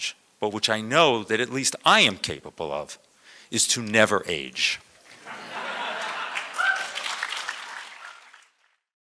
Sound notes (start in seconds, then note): 5.2 laughter; 5.5 applause